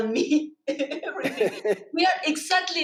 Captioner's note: both laughing